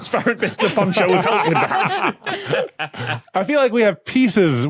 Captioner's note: guests laughing